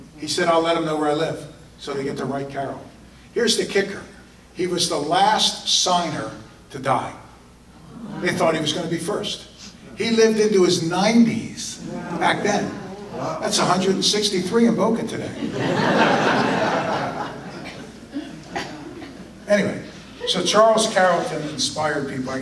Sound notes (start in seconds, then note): 15.3 audience laughter